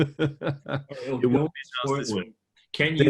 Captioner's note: laughs; audio distorting